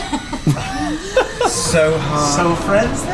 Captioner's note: laugh